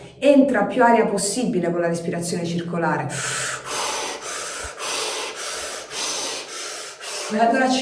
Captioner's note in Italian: suono gutturale; sospiri